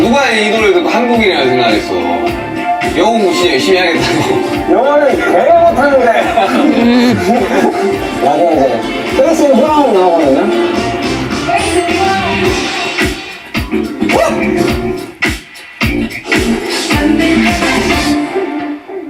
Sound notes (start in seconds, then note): 6.1 mouth cave opens; 11.5 bass and Drum